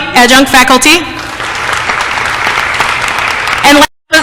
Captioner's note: applause